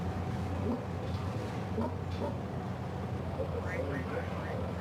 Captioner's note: pig grunting